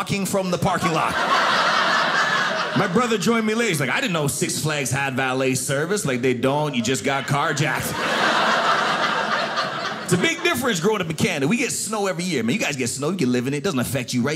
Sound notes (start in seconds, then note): 0.7 audience laughing